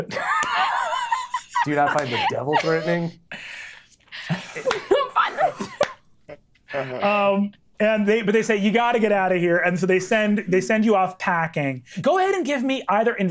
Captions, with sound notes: Dude, I find the devil threatening. (speaking faintly) - But they say, "You've got to get out of here." And so they send you off packing. Go ahead and give me either investigation